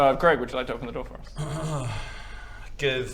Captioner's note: clears throat